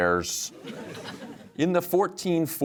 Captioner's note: audience laughs